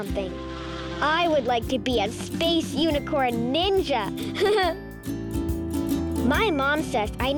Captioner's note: laughs